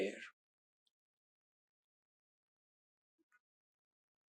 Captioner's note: pauses 6 seconds